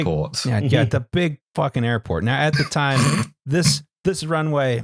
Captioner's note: snorts